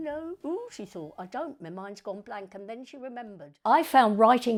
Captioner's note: reciting